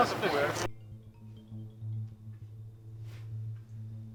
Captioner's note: threatening ambient music; cell phone ringing